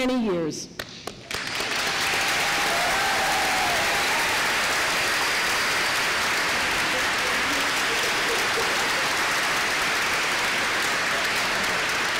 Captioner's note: applause